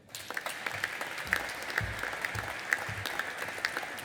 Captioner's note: audience applauding